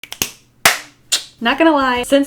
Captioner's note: clapping